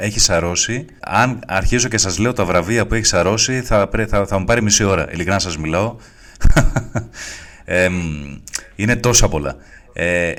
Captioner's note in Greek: γέλια